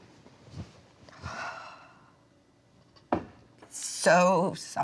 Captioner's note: Dory exhales